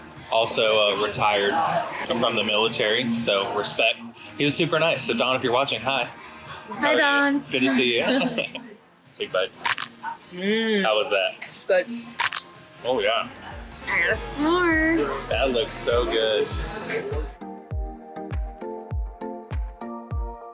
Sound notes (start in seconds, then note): 9.6 taco crunches; 17.2 lighthearted music